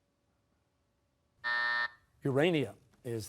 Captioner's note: buzzer